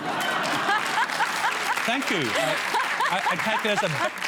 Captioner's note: laughter and applause